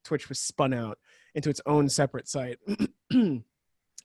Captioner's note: clears throat